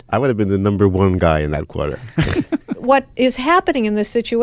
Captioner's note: laughs